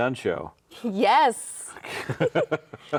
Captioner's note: both laughing